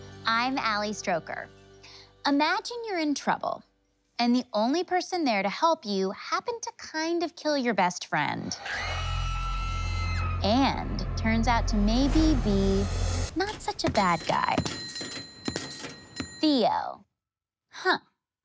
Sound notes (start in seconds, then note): 8.8 screams; 15.2 dinging